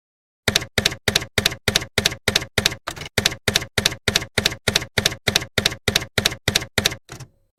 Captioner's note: typewriter keys clacking